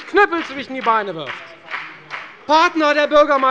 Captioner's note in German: Beifall bei der SPD